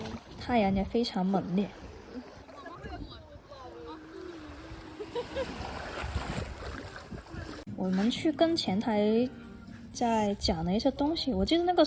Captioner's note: laughs